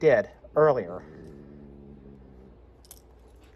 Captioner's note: growls